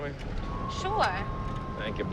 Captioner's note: sirens wailing